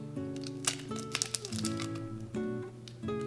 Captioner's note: egg cracks